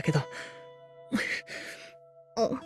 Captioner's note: sob